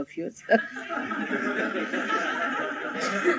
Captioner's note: laughter